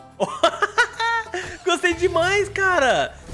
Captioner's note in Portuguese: risos